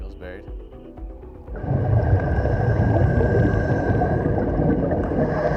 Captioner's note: breathing